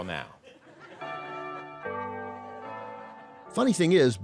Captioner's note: bells ringing